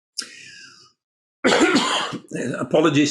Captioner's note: coughs